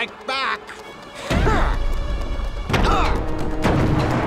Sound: grunting

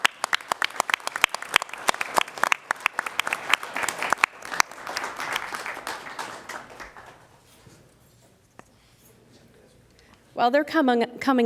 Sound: applause

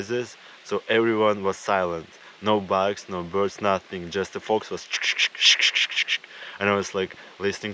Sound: imitating the noises

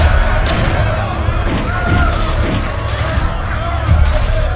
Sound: gun Shots; riot Sounds

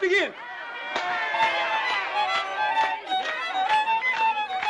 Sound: all cheer

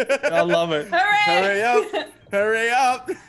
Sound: laugh

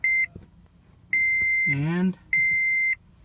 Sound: beeping

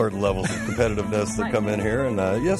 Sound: laughter

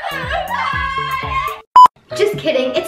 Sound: beep

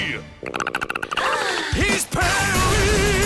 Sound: chattering; all sigh

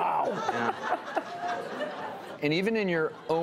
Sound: audience laughing

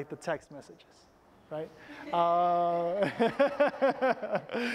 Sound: laughter

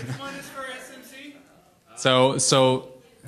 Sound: voiceover

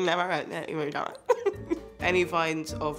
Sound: laughs

